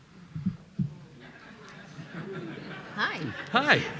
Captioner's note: audience laughing